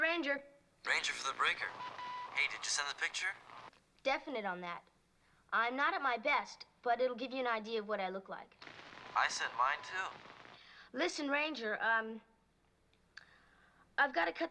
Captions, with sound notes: Breaker for the Ranger. Ranger for the Breaker. Hey, did you send the picture? Definite on that. I'm not at my best, but it'll give you an idea of what I look like. [ Static ] I sent mine too. Listen, Ranger, um,